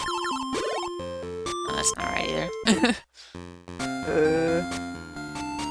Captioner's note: laughs